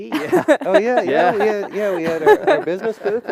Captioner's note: laughter